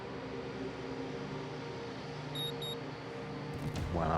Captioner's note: beeping